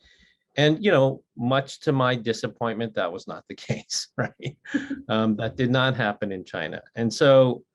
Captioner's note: laughs